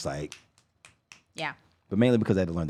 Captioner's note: snapping